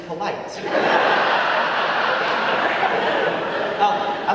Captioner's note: audience laughing